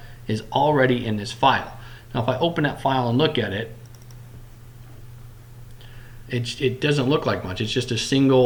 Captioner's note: clicking